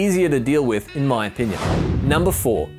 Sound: whooshing

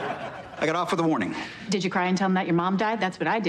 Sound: laughter

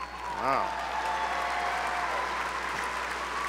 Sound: applause

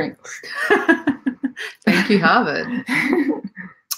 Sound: laughing

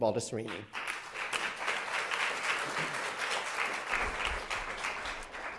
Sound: audience applauding

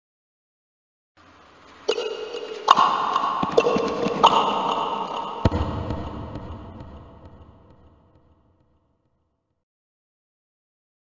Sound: sound of footsteps

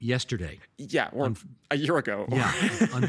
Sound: laughing

